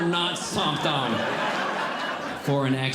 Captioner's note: audience Laughing